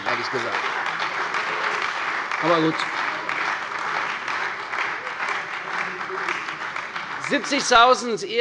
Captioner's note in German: Beifall bei der CDU und dem BÜNDNIS 90/DIE GRÜNEN